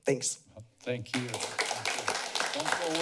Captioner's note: applause